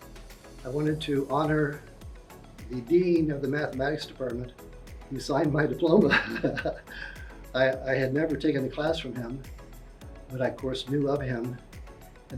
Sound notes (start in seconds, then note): 6.0 laughs